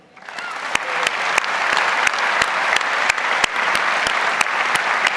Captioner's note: audience applauds